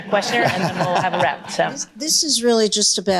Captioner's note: audience laughter